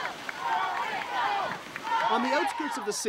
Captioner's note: crowd cheering